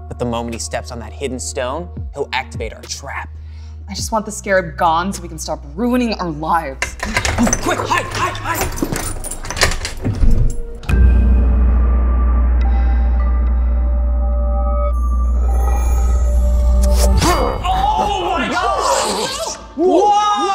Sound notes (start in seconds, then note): 6.8 objects rattling; 11.0 suspenseful music; 16.8 Scarab exclaiming; 16.8 spear whooshing